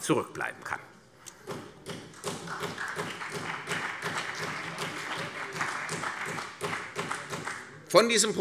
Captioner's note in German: Beifall CDU und BÜNDNIS 90/DIE GRÜNEN